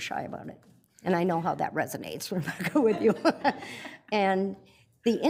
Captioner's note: laughs